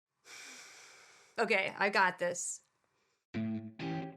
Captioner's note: breathes; music intro